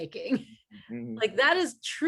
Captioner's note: laughs